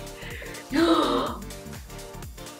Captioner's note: gasps